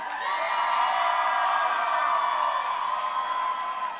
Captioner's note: crowd cheering